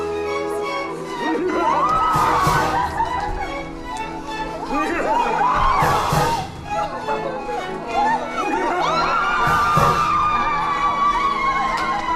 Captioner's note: chorus shrieks as Sir Despard approaches